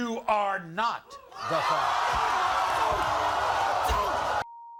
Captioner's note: audience vocalizing